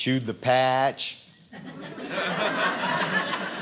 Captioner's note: audience laughing